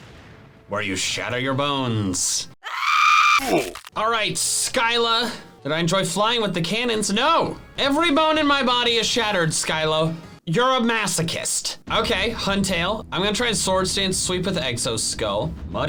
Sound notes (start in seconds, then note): 2.6 person screams